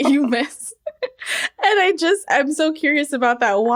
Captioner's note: laughter